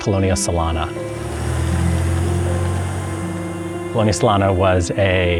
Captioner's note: car Passing